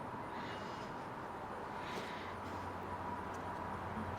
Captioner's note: heavy breathing